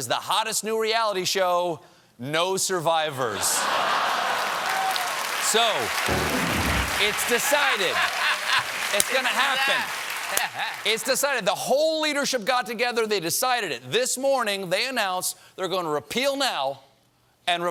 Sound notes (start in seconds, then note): 5.5 applause; 5.5 laughter; 6.0 piano riff